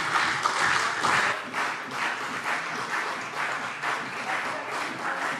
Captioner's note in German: Beifall CDU